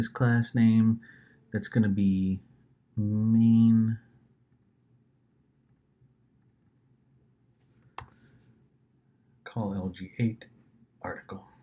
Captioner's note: clicks